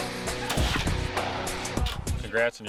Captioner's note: gunshot